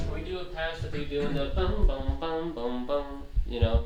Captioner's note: hums